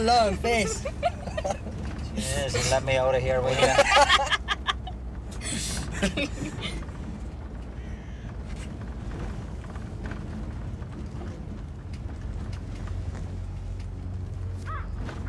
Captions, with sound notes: Why the long face? Jeez, will you let me out of here, will you? [laughing]